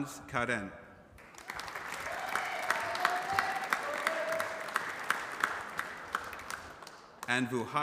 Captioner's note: applause